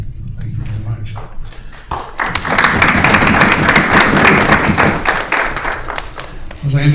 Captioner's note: applause